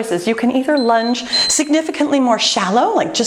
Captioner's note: timer beeping